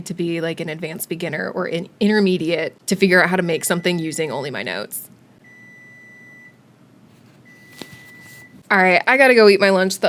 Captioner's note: more oven beeping